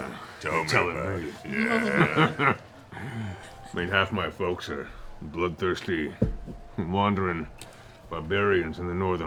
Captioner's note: chuckles